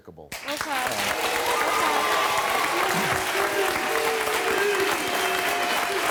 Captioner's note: cheering